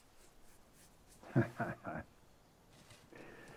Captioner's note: chuckles